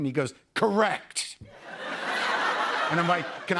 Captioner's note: laughter